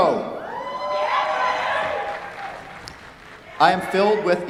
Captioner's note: cheers, applause